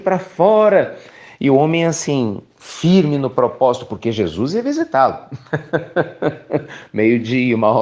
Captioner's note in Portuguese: risos